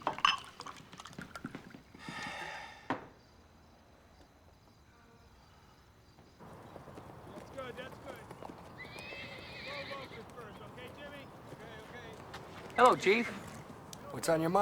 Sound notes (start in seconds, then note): 8.9 horse whinnies